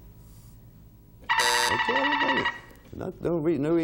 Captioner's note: timer buzzing